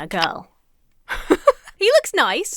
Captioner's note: laughs